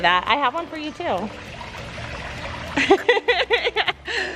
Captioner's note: laughs